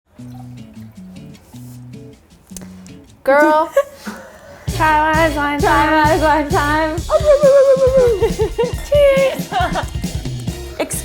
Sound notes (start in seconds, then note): 0.1 smooth jazz music; 3.4 laughing; 7.2 playfully mumbles; 9.9 laughs